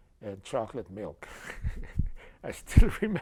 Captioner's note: laughter